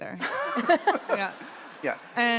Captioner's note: audience laughs